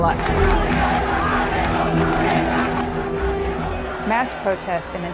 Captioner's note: protesters chanting